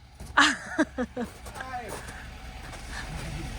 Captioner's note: laughing